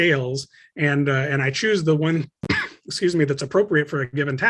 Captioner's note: softly coughs